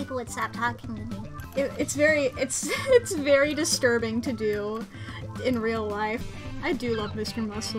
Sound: normal voice

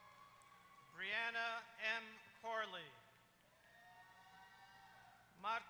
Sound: applause

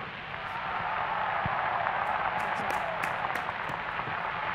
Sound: applause

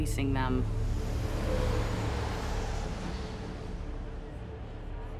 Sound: traffic whirring

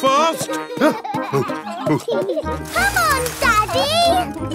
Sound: peppa and george laughing; panting

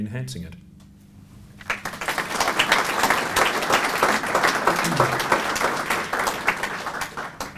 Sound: applause

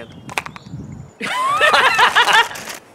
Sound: laughter

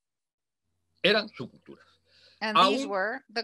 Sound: speaks foreign language

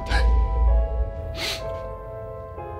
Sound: door slamming; sniffles

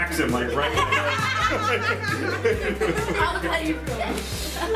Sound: laughing

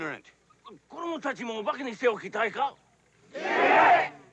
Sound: speaking Japanese

